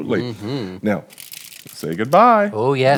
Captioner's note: foil crinkling